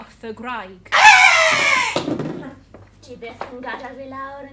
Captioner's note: scream